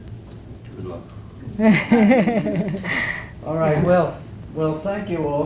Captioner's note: laugh